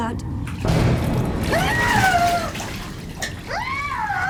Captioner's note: screaming